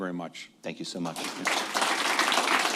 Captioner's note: applause